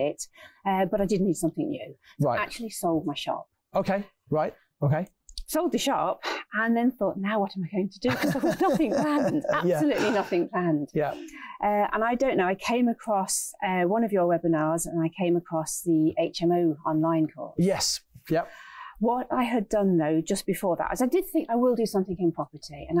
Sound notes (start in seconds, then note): 8.0 laughs